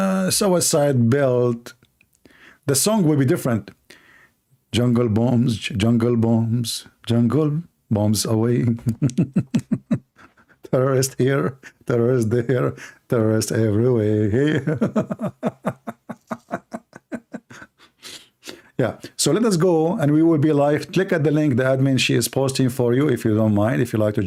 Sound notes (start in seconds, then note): 8.8 Ketawa; 14.4 Ketawa